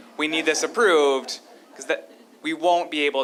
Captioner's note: laughter